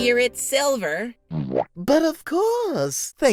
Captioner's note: womp